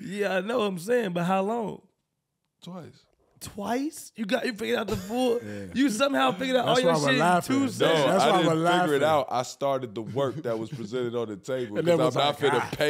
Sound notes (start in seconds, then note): 4.0 stutters